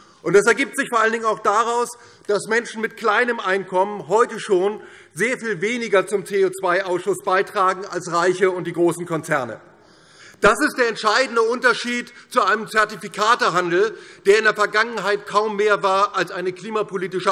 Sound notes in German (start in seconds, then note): none